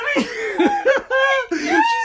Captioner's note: Jenny laughs